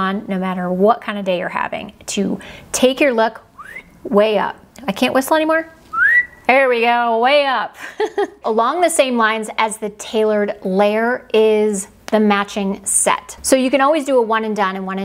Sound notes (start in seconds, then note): 3.5 whistles; 5.9 whistles; 7.8 laughs